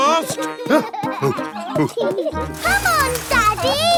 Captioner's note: peppa and george laughing; panting